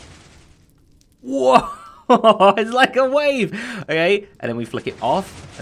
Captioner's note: chuckles